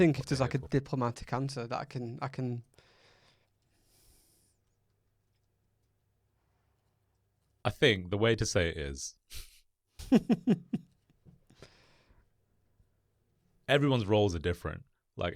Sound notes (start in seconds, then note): 10.0 laughs